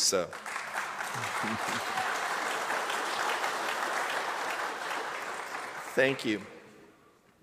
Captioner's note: applause